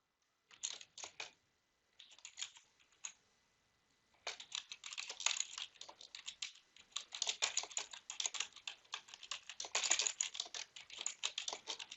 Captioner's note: typing